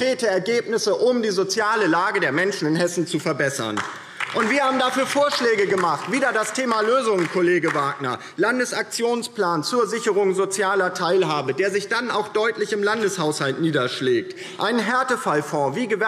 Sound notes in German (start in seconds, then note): 3.6 Beifall DIE LINKE